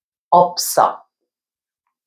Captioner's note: pronouncing Korean